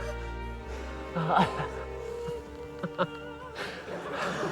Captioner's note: laughs